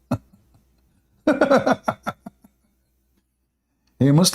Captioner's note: Ketawa